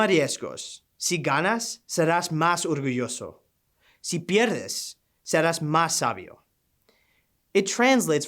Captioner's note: speaking in Spanish language